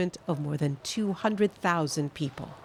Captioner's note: speaking French